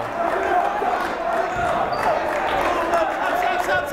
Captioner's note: yelling